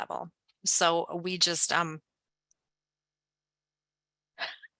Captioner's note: laughs